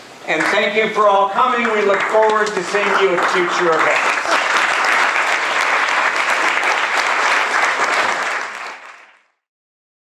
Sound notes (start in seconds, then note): 4.3 applause